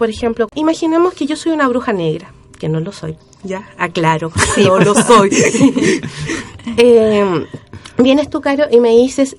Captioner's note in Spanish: risas